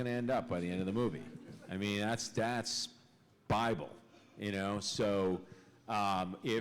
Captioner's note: laughter